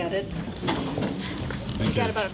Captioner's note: banging metal